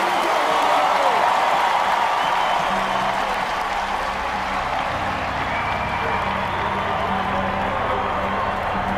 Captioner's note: cheering Fades